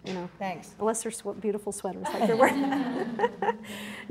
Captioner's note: audience laughs